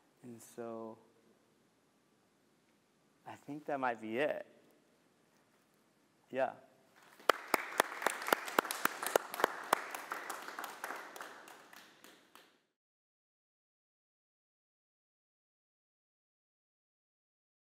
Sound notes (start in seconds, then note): 7.0 applause